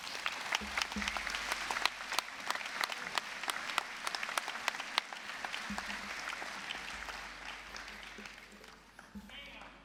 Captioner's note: applause